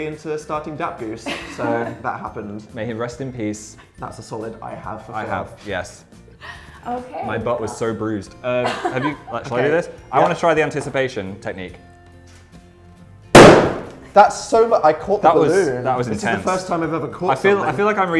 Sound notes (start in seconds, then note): 13.3 balloon pops